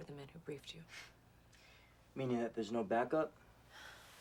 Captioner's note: scoffs